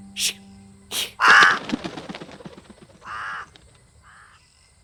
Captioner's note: raven caws and flies off